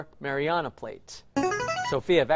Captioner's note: chiming